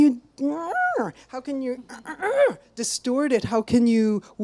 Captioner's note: grunts